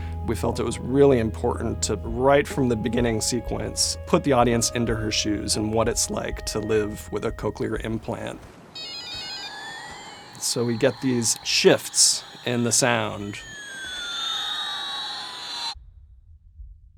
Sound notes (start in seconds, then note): 8.8 toy beeping; 15.7 sound cuts out